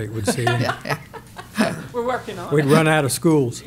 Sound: laughs

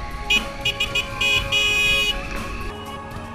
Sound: horn

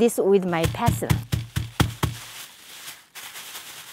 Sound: banging

